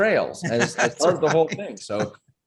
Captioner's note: chuckling